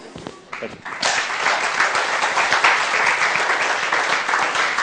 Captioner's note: applause